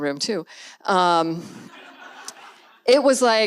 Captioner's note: audience laughs